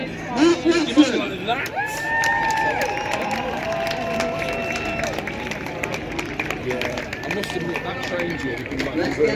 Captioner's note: applause and cheering